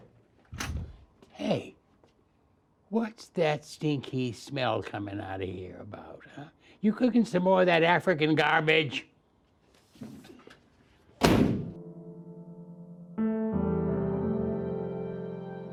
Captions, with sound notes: - Hey, what's that stinky smell coming out of here about huh? You cooking some more of that African garbage? (door slams) (gentle piano music)